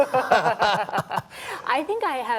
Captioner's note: laughter